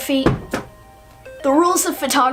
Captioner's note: book crashes to the floor